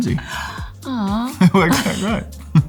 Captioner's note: gasps; gentle music